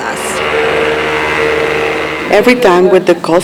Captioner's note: vacuum buzzing